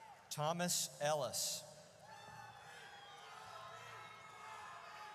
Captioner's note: audience cheers